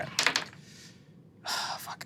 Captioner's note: dice rolling